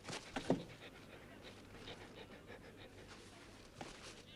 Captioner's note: Beast panting